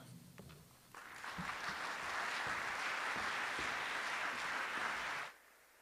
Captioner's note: audience applause